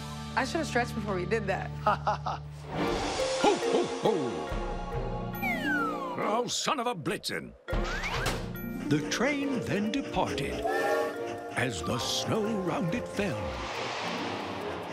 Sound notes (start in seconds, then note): 1.8 laughing; 10.6 horn tooting